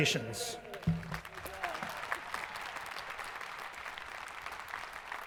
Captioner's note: crowd applauding